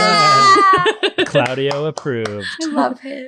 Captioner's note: laughing